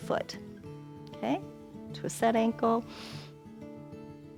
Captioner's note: inhales